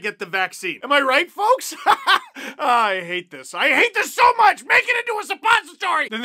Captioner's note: laughs